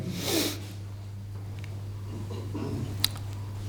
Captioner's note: snort